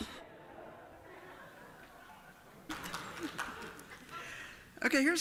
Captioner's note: laughter